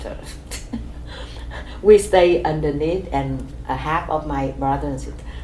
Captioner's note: laughs